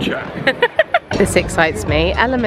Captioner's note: laughs